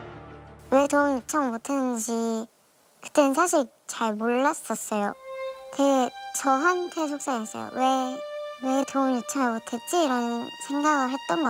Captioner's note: voiceover